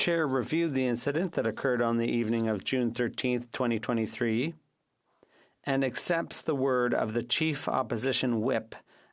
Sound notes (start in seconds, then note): 2.6 speaking FRENCH